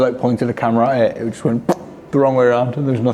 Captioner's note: fart sound effect